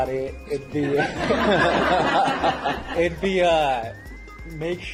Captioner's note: laugh